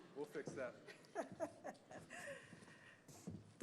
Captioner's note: laughing